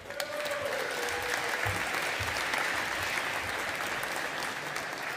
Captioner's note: audience applauding